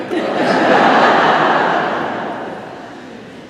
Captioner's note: laughter